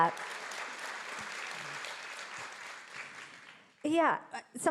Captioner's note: audience clapping